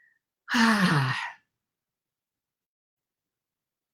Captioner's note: sighing